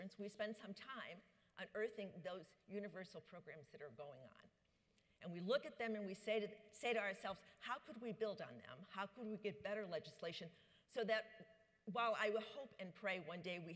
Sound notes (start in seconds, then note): none